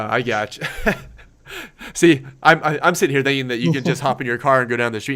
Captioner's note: laughs